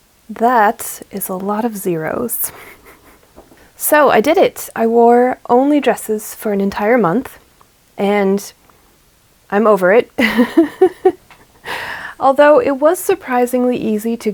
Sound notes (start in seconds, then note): 10.2 laughs